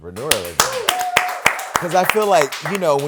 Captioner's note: cheering